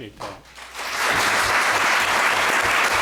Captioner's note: applause